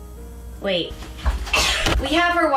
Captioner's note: intense cough